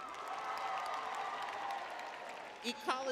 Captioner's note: crowd cheering